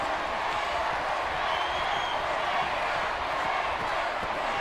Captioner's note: audience cheering